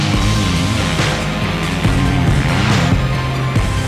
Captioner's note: engine revving